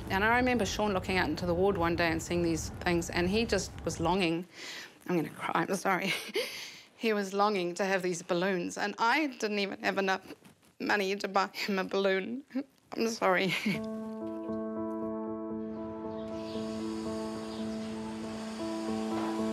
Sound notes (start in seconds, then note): 12.4 sobs; 13.8 poignant piano music; 16.3 air hisses